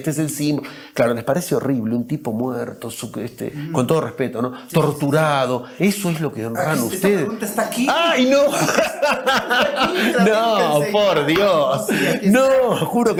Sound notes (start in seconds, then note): 11.0 risas